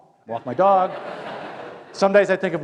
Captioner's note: laughter